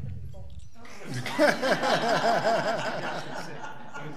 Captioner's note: laughing